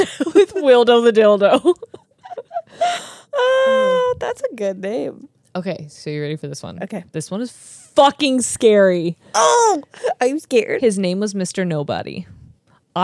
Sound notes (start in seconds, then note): 1.6 laugh